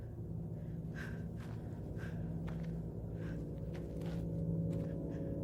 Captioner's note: Louise breathing heavily